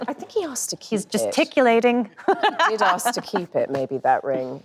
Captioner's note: laughs